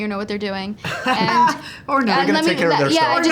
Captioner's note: laughs